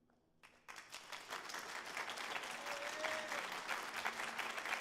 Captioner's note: audience applauding